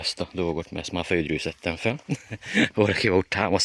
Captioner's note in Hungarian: nevetés